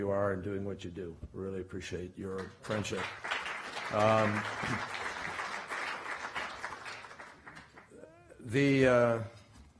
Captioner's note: applause